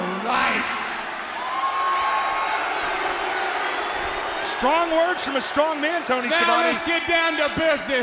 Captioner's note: crowd chatter